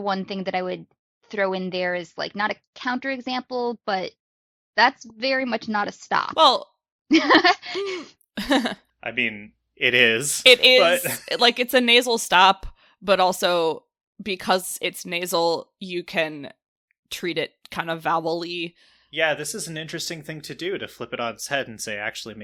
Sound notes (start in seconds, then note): 8.4 laugh